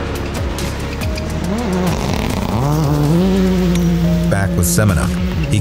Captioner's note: car engine revving